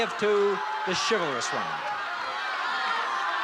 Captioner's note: cheering